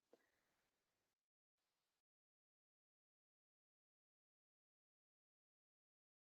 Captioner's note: brief silence